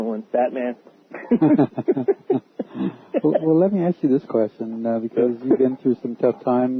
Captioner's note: laughter